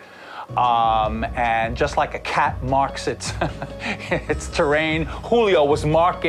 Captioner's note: chuckles